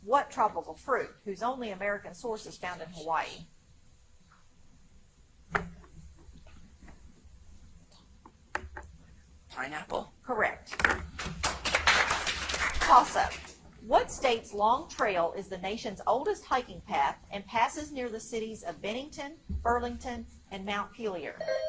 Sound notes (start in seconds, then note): 5.5 teammates whispering quietly; 11.2 audience applauds; 21.4 buzzer chimes